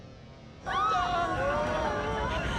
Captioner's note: screaming